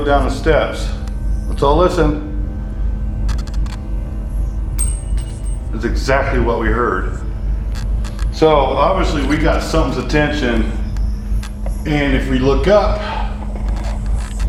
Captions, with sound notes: down the steps, let's all listen. (metal clinking) That's exactly what we heard. So obviously we got something's attention, and if we look up,